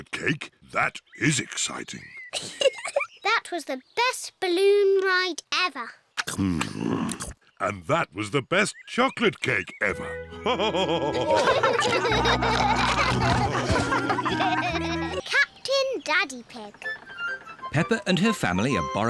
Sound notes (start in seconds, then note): 2.3 giggles; 8.3 all laughing